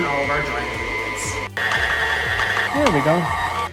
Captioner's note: mixer whirring